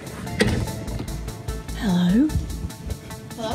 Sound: whispering

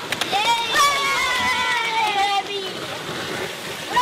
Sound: kids clapping and cheering

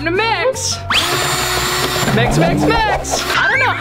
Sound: mixer motor whirring

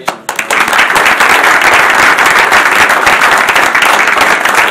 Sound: audience applauding

